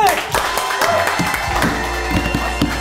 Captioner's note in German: Jubel, Applaus